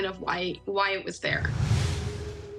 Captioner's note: air whooshing